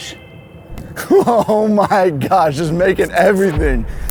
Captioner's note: laughs